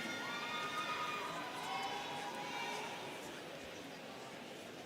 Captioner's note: students cheering